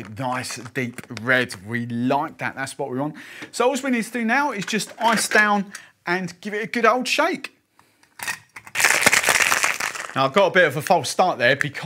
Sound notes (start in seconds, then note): 8.7 shaking ice; 8.8 ice clinking